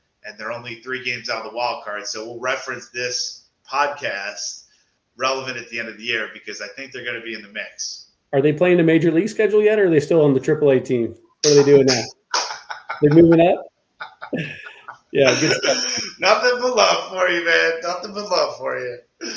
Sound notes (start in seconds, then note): 12.3 hand clapping; 14.0 laughs